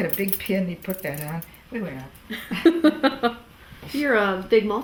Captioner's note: laughter